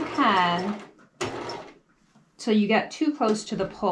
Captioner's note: sewing machine humming